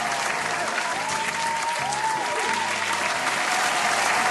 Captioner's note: applaus